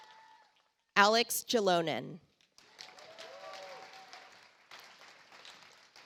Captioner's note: audience applauds